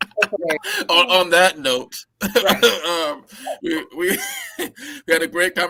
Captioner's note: laughter; laughter